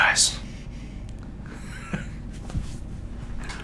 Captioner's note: laughing